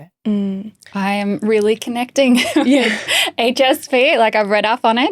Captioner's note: chuckling